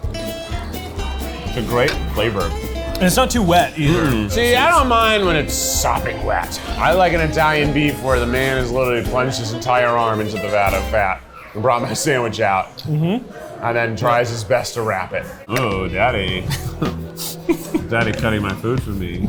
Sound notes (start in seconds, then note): 0.1 upbeat music; 16.4 laughs